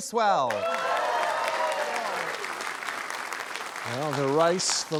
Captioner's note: cheering, applause